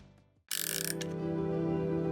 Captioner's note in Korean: 다이얼 소리